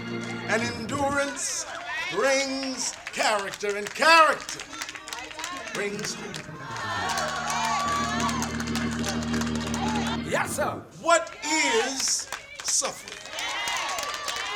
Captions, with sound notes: And endurance brings character, and character brings hope. (clapping and cheering) - Yes sir! - What is suffering?